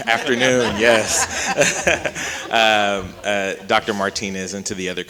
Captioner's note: chuckles